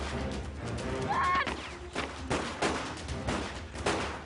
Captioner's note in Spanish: Gritos; Detonaciones de disparos